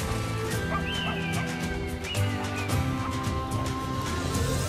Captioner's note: bird cawing